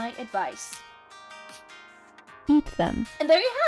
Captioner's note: silence